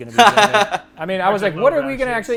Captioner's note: laughs